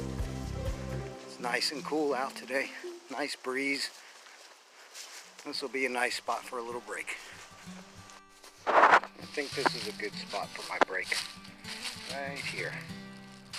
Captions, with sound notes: It's nice and cool out today. Nice breeze this will be a nice spot for a little break... I think this is a good spot for my break....right here.... (leaves rustling)